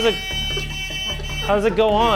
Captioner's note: hooter buzzing